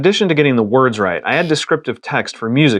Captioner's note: buzzer